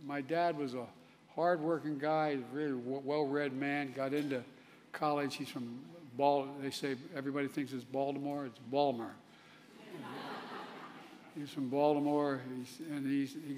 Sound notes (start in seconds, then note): 9.7 laughter; 9.8 pronounced in an accent